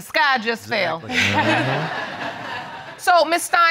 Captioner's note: all laugh